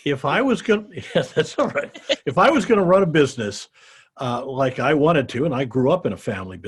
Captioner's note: laughs